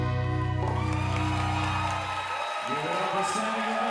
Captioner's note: audience cheering and applauding